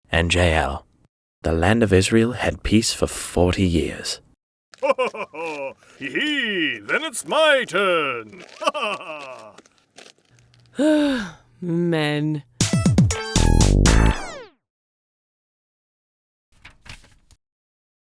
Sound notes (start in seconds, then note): 4.7 laughs; 10.7 sighs; 12.6 upbeat music